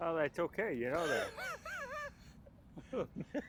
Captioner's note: laughing